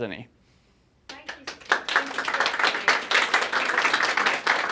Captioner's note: audience clapping